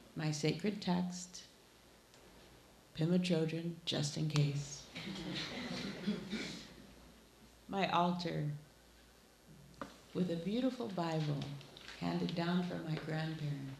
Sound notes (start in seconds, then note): 4.9 laughing